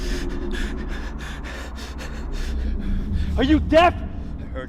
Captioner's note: both panting